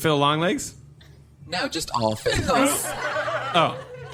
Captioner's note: audience laughter